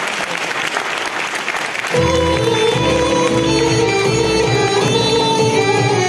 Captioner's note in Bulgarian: аплодисменти